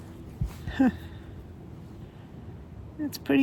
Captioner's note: laughs